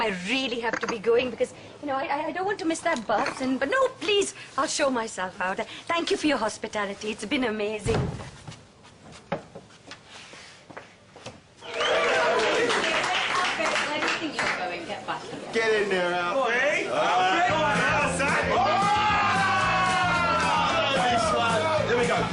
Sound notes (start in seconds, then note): 7.8 thud!